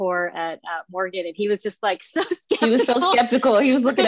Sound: laughing

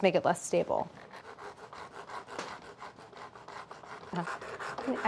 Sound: knife sawing

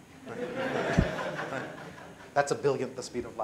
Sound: laughter

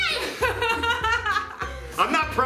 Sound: laughing

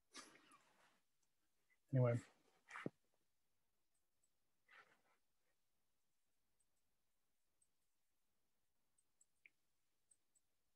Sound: silence

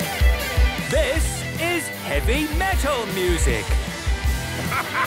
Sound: shouting

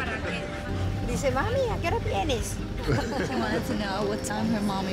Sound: speaking spanish

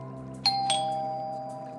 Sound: doorbell Ringing

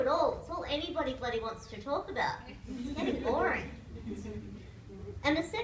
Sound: laughter

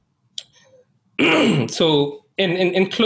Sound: clears throat

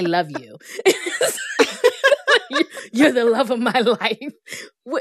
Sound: laughter

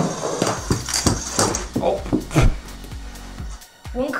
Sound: laughs

